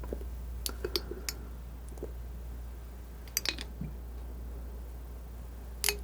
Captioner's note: tapping